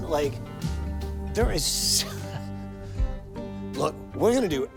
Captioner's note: laughs